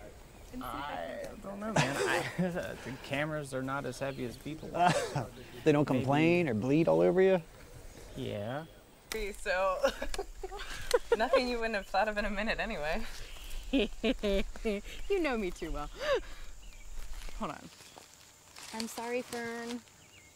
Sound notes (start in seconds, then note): 1.7 laughs; 4.7 laughs; 9.8 giggling; 13.6 laughs